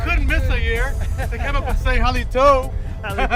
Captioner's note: all laughing